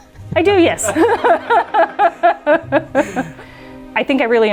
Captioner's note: laughing